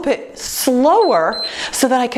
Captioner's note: timer beeps